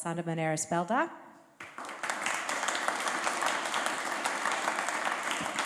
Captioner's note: applause